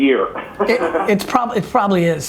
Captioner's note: laughs